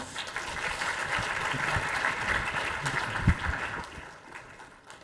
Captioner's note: audience applauding